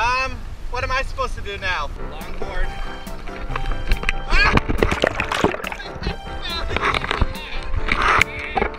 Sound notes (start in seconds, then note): 4.5 laughs